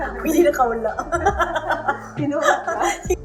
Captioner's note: laughs